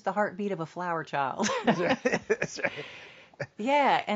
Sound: both laugh

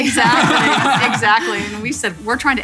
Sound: laughing

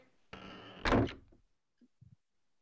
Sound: cabin door creaks

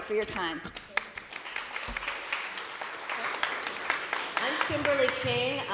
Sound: applause

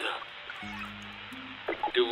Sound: static continues

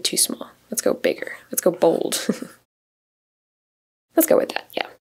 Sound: chuckles

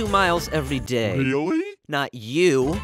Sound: man's voice

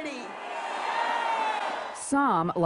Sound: crowd yelling

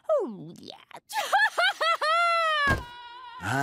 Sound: loud sob

